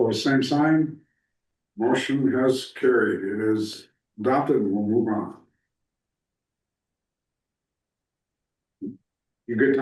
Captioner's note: snorts